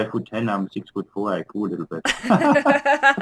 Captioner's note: laughter